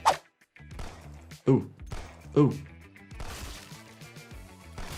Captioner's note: gun popping